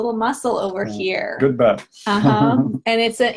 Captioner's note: laughing